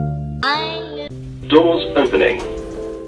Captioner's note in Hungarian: Az ajtók nyílnak